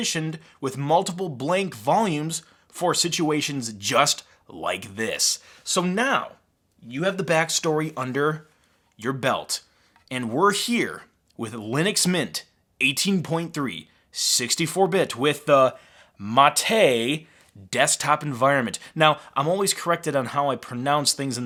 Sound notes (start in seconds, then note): none